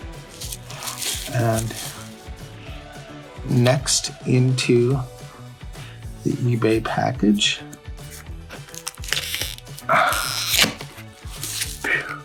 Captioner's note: phew